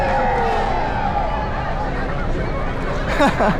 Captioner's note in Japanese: 大歓声